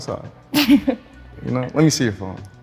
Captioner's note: laughs